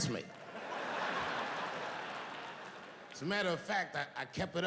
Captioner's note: audience laughing